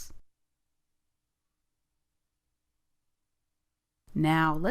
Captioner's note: silence